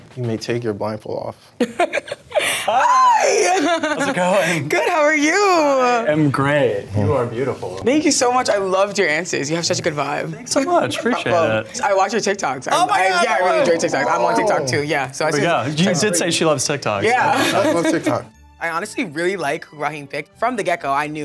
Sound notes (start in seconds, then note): 3.2 chuckles; 17.3 chuckles